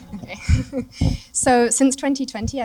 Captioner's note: laughter